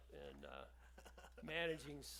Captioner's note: laughs